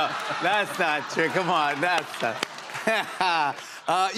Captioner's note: laughs